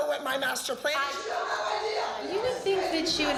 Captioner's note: arguing